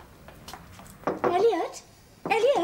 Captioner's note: knocks at door